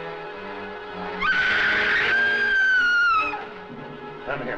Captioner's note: Dina screams